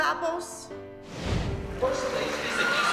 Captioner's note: cheering